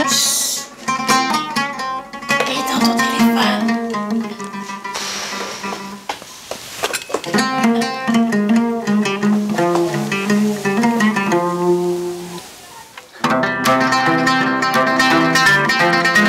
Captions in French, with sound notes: Chuut Et éteins ton téléphone ! *Soupir* *Musique de oud*